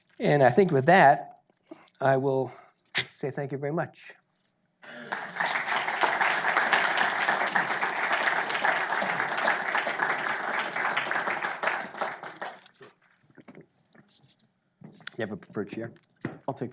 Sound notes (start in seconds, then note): 4.8 audience applause